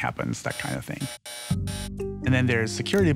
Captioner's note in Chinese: 發出錯誤時的噪音